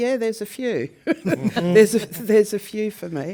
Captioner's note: laugh